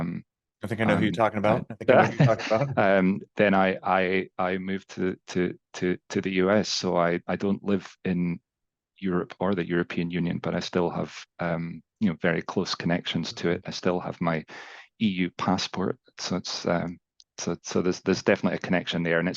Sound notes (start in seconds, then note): 0.8 chuckles